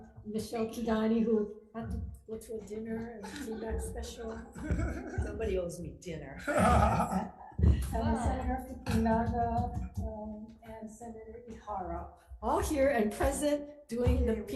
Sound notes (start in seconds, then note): 4.1 senators chuckling; 6.4 laughter